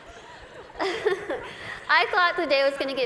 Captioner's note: laughter; laughs